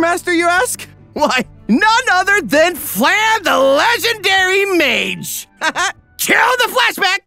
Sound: chuckles

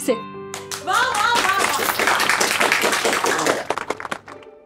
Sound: claps

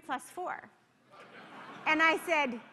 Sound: laughter

